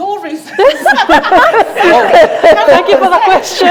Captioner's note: group laughs